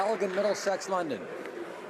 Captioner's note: some Applause